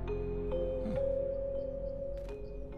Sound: Kyle grunts in satisfaction

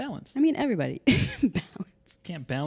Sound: laughing

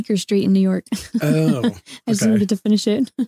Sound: laughing

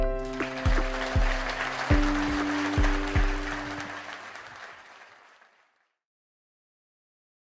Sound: applause can be heard

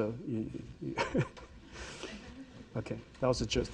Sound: Jensen laughs

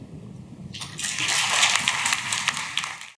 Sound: clapping

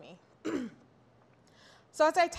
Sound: clears throat

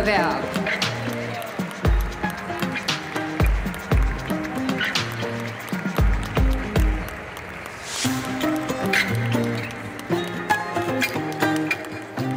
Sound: applause; ♫ Midtempo guitar music ♫

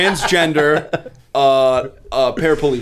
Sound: laughter

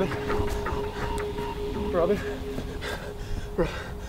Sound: man panting

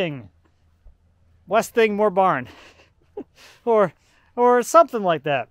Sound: laughs

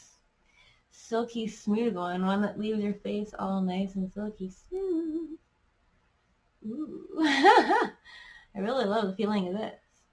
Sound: giggles

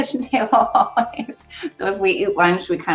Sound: laughs

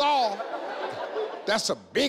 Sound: crowd laughing

